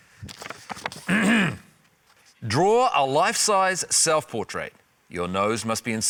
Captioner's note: clears throat